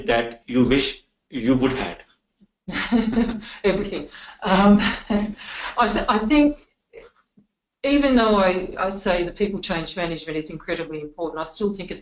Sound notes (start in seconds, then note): 2.8 laughing